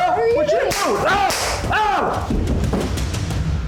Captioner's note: gun firing